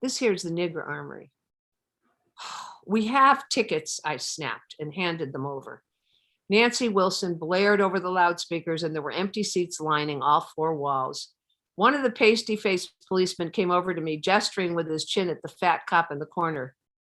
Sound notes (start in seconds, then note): 1.9 sighs